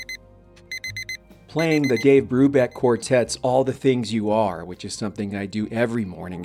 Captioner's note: alarm beep